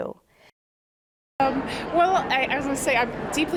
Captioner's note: crowd chatter